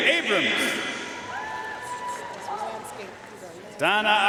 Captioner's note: audience cheering and applauding